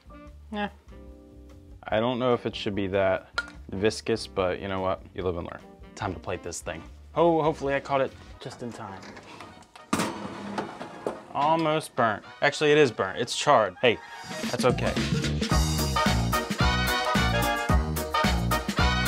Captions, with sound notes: Yeah, I don't know if it should be that viscous, but, you know what? You live and learn. Time to plate this thing. Oh, hopefully, I caught it just in time. (pan clanking) Almost burnt. Actually, it is burnt, it's charred. Hey, that's okay. (upbeat music)